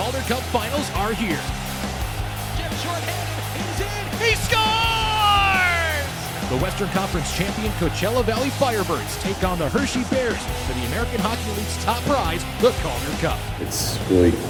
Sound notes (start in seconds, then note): 3.1 chatters